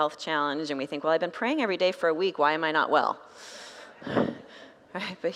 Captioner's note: congregants laugh